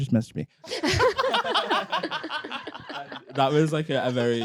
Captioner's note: everyone laughing